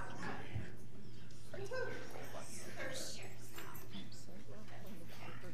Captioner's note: audience talking amongst themselves